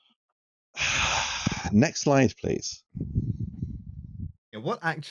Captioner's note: large exhale